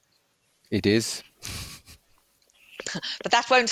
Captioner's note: laughs